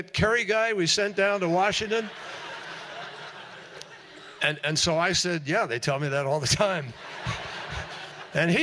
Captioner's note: laughter